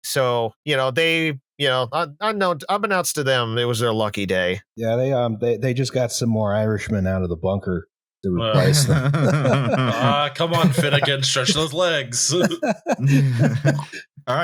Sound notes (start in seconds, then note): 8.5 laughter